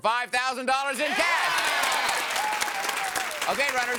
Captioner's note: audience applause